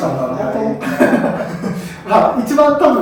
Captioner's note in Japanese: 爆笑